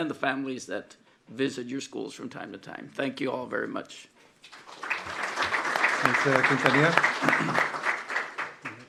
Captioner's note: applause